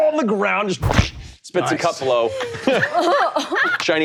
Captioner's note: imitates fist thudding